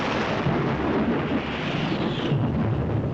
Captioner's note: explosion